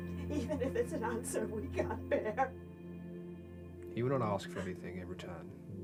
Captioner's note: sobbing